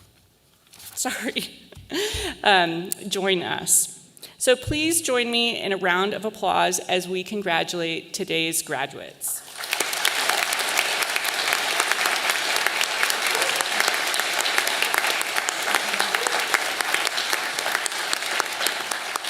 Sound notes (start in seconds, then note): 2.0 laughs; 9.9 all applauding